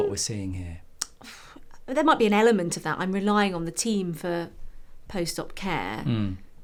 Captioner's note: phew